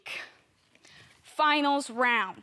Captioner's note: heavy breathing